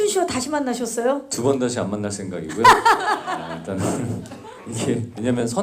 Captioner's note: laughs